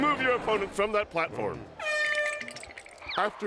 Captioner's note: air horn blows